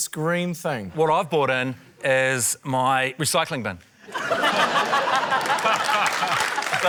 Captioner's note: laughter